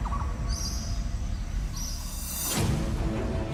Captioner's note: bird chirps